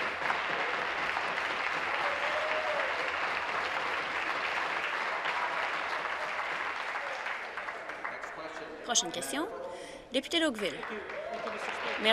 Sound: voice trailing; applause

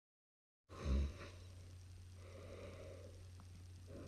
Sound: snoring

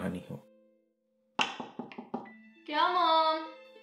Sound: knock

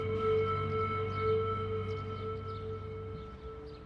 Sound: birds chirping

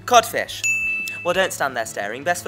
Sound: correct ding sound

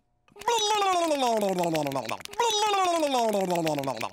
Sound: blubbering

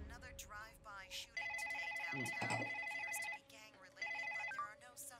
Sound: telephone ringing

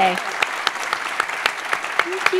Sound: applause

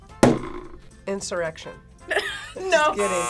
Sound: laughs

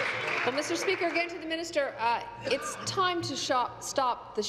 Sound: applause

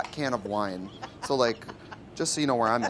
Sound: laughs

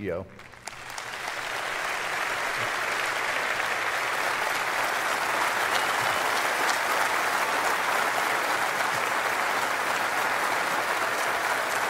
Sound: applause

